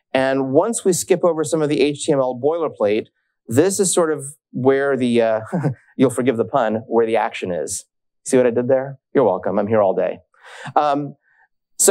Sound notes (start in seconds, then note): 5.4 chuckles